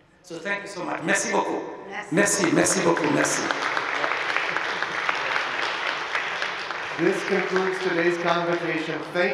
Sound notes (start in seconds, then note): 1.3 speaking in a foreign language; 3.7 audience applauding